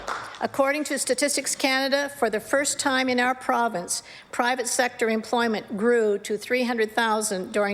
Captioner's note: applause